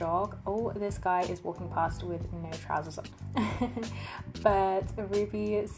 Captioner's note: laughs